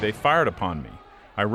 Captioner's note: rifle shot